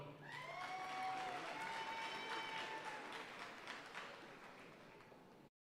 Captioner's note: audience cheering and applauding